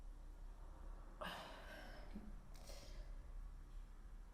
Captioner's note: Leona sighs